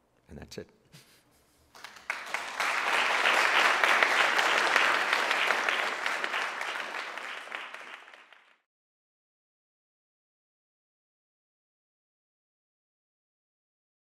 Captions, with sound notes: And that's it. >> [APPLAUSE]